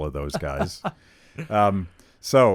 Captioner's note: laughs